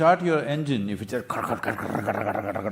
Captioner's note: laughs